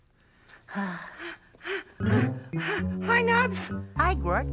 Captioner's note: panting